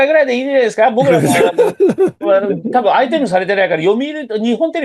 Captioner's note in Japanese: 笑い